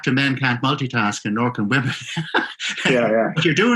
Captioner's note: laughing